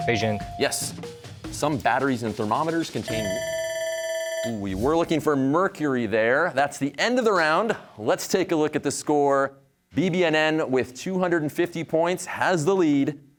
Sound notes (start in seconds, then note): 3.0 bell ringing